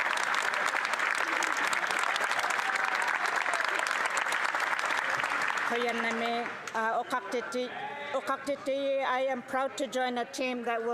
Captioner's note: some Applause